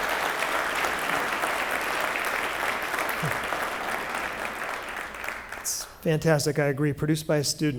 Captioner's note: applause